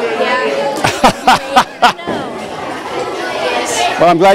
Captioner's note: laughter